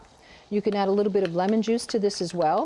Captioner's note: tapping